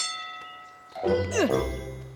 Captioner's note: bell dings; grunts